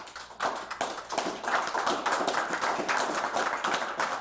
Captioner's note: audience applauds